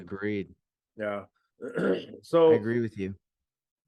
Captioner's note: clears throat